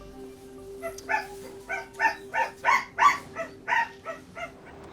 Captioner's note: dog barking